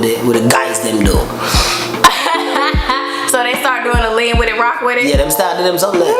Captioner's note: laughs